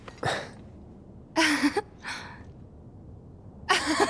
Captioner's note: laughs